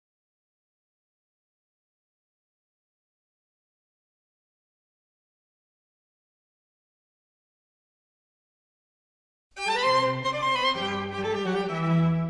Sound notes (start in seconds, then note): 0.0 silence; 9.6 classical music, moon moving through phases with detailed information